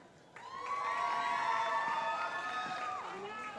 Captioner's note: cheering